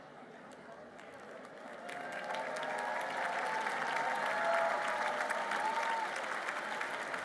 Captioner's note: applause